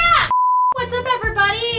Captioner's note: beep sound